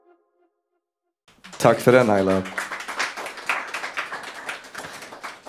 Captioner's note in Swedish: Applåder